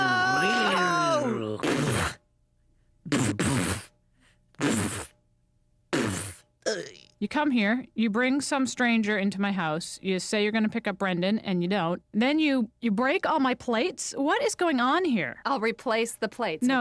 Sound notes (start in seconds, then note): 2.4 crashing, sputtering, groaning